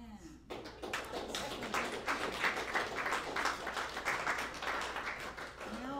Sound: applause

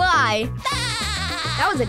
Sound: laughing

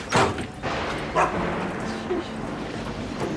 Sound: door slams; Dancer barks

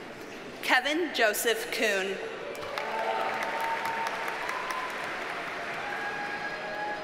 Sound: audience cheers and applauds

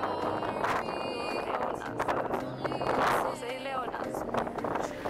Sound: windy

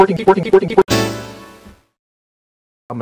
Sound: Windows "chord" sound

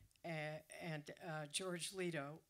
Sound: none

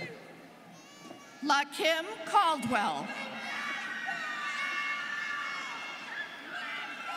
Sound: students cheering

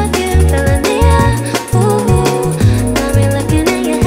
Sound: ooh, ooh

